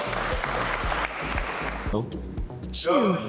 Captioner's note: applause